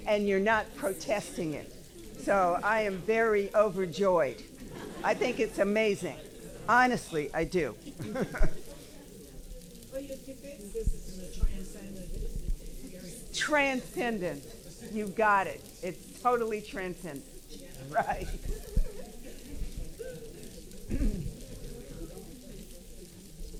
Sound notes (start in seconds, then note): 7.7 laughing; 12.4 attendee speaking softly; 18.5 paper crinkling and audience chattering